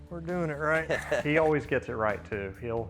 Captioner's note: chuckles